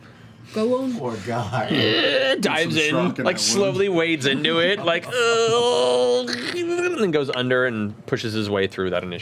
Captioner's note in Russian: стонет